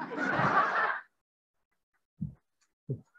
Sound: laughing

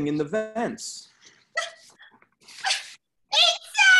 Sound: gasping

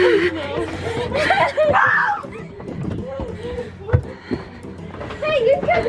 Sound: screaming and laughing

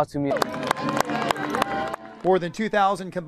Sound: clapping

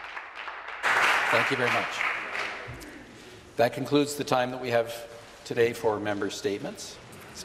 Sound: some Applause

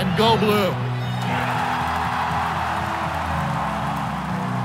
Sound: crowd applauding

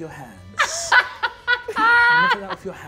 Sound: laughs

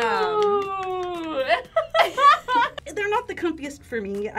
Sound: both laugh

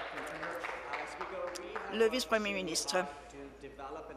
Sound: applause

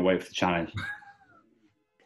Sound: sniggering

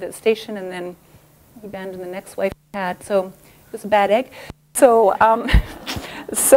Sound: laughter

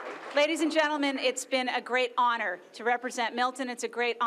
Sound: applause

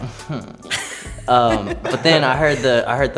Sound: Kelianne laughs

